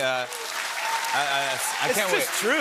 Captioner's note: cheers and applause